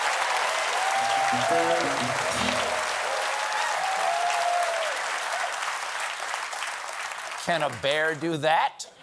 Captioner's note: applause